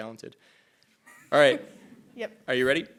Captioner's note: laughing